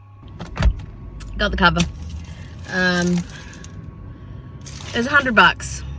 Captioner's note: plastic crinkles loudly